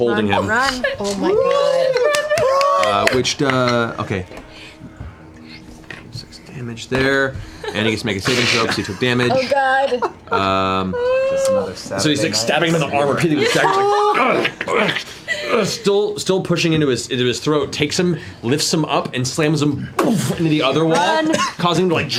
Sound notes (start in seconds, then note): 13.8 grunting